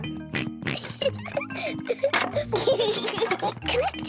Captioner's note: both giggling